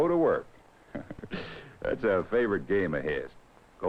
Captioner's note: chuckles